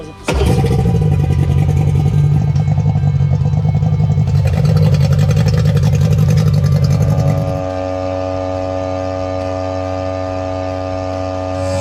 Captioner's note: engine sounds